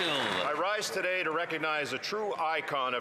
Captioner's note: some Applause